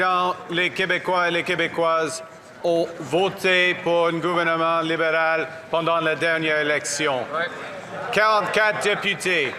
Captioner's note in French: applaudissements